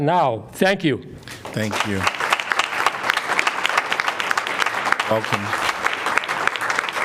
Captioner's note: applause